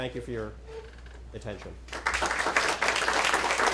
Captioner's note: applause